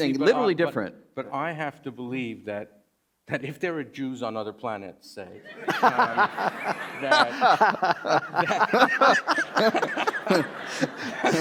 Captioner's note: laughter